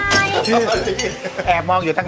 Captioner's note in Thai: หัวเราะ